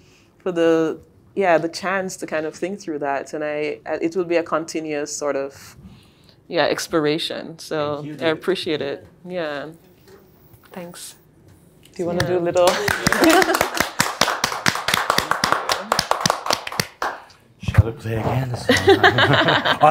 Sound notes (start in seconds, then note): 12.6 clapping; 18.6 both laughing